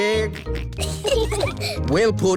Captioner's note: peppa and george giggling